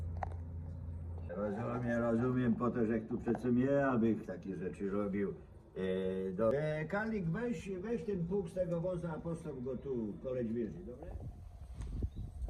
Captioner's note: recording of a blacksmith’s conversation in Polish